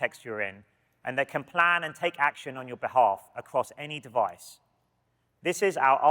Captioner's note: none